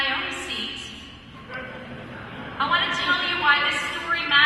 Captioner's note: laughter